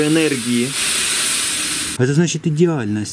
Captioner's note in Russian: шипение